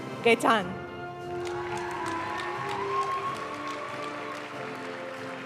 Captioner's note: audience cheering and applauding; graduation music